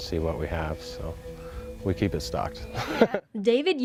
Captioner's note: laughs